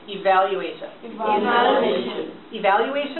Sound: voiceover

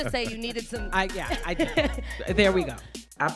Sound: interviewer laughs

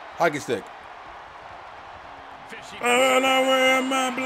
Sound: applause

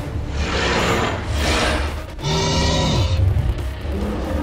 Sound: dinosaur grunts

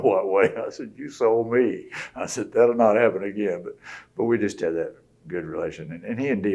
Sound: laughs

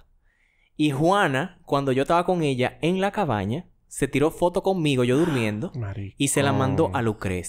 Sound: surprise sound

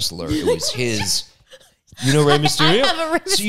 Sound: laughs

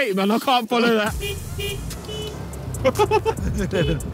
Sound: horn beeping; Josh and Simon laughing

